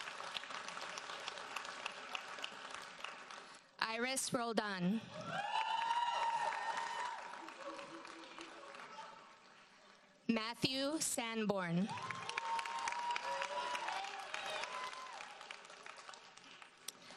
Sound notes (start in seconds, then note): 0.0 audience applauds; 5.2 audience cheers and applauds; 11.8 audience cheers and applauds